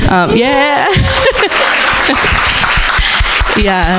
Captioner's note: crowd applauding